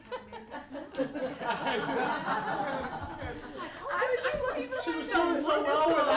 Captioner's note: laughter